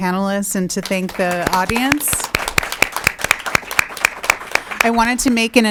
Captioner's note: applauding